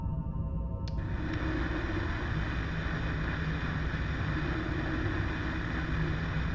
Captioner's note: static plays